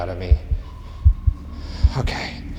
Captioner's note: heart beating